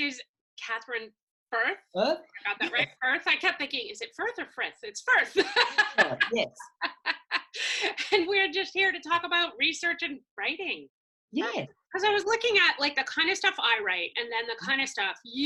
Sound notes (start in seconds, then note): 5.3 laughs